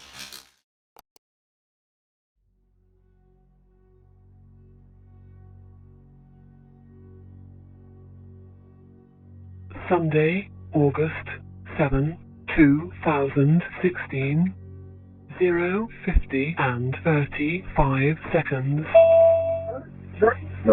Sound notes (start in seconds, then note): 0.0 fizzing pulse of electricity; 1.1 button click; 7.2 low intense music; 18.9 connection chimes